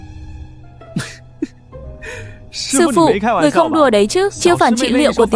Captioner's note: laughs